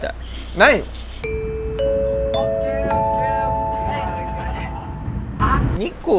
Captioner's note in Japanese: アナウンス音